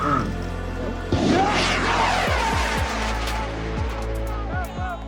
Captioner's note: rocket zooms; crowd yelling